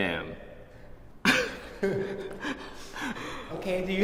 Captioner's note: laughing